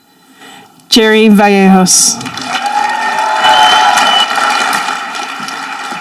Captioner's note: audience applauding